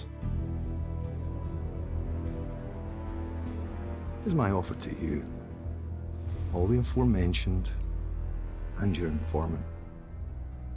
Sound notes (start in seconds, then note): 0.1 tense music; 4.2 scottish accent